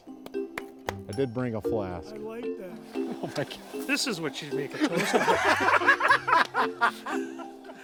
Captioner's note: raucous laughter